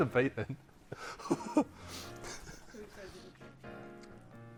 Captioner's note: laugh